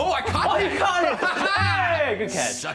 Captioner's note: laughing